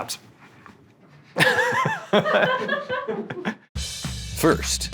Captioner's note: laughter; jazz music begins